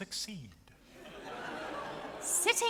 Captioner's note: audience laughs